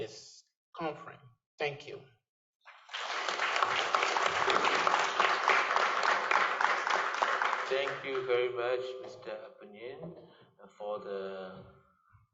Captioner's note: applause